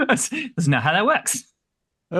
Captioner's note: laughs